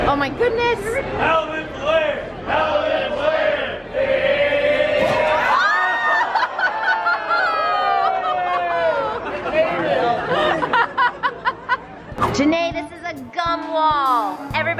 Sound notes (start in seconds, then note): 1.5 employee yelling; 2.7 crowd echoing employee; 4.7 howling; 6.0 laughing